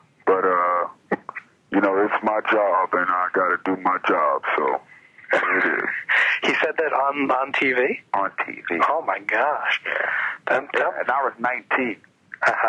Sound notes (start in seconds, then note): 0.0 chuckling; 5.2 laughs